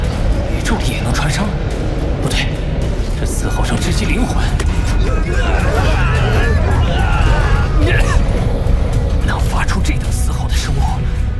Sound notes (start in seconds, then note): 3.1 the sound of this scream pierces the soul!